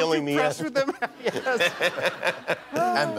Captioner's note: laughter